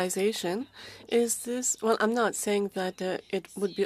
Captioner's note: speaking French